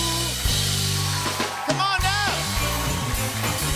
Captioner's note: cheers and applause